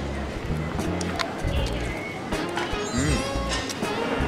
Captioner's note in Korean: 냠냠